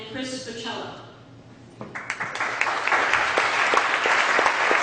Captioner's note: audience clapping